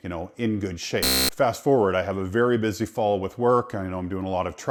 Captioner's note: beep